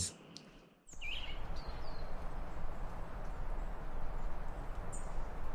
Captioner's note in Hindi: पक्षी चहकते हुए